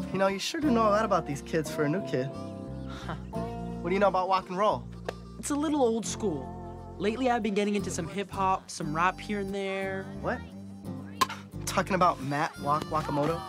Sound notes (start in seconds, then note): 2.8 chuckles